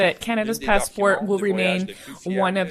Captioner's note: speaking French